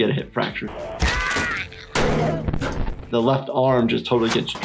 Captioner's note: video game child yells